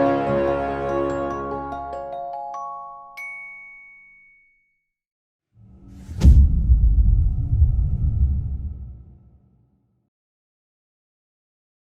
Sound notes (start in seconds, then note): 5.6 dramatic sound